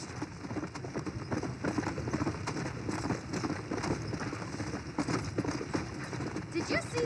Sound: horse galloping

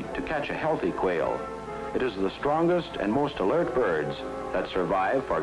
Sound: none

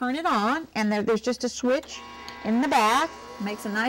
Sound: machine noise

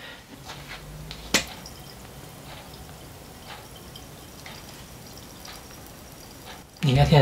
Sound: bottle being opened…

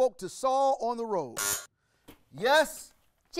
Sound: buzzer rings

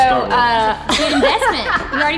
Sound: laughs

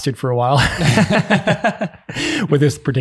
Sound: group laughing

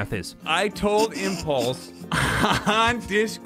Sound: laughs; snickering

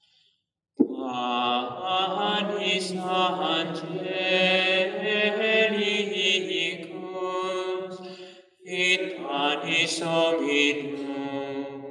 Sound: chant

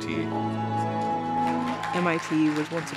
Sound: audience cheers

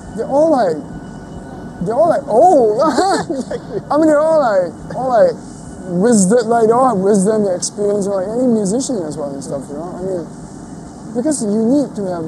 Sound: laughing

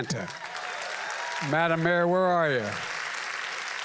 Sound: applause

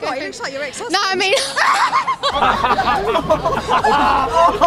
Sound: all laugh

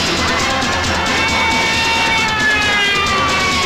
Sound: police siren blares

